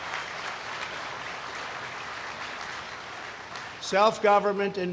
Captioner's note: applause